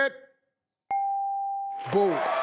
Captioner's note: bell dinging; audience applauding